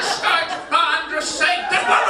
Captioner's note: audience laughing; mimics elderly person's voice